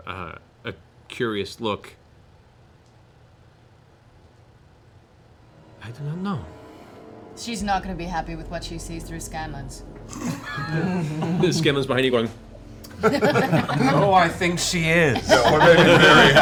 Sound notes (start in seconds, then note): 10.2 laughter